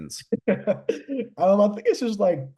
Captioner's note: laughs